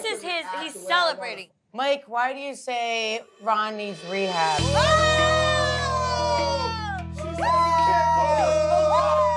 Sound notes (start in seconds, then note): 6.2 cheering